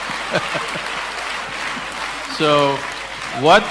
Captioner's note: laughter